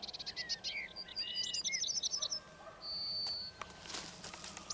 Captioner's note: birds calling